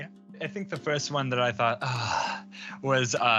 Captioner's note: sighs